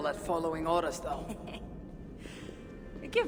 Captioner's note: laughs